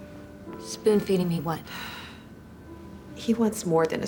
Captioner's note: sighs